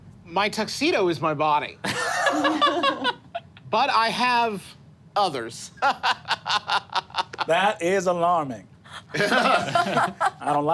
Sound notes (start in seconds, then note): 1.9 group laughing; 5.2 laughs; 9.0 group laughing